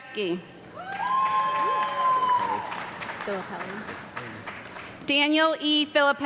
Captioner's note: audience clapping and yelling